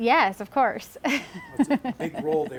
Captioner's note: laughs